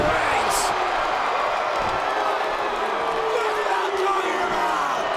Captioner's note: crowd cheers